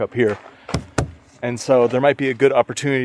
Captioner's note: palm thumps